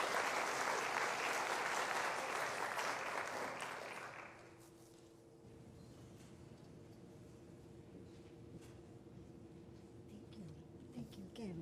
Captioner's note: applause